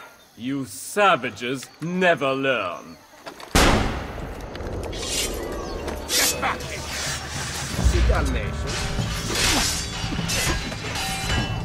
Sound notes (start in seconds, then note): 3.5 gunshot; 8.0 fighting sounds